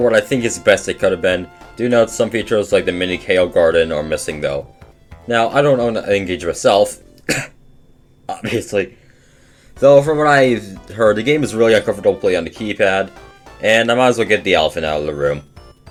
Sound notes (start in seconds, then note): 7.2 cough